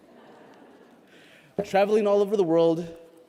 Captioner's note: laughter